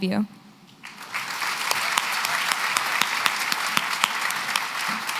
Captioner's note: applause